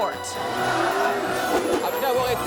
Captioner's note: crowd members yell; news reporter speaks in foreign language